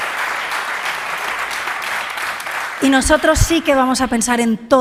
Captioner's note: applause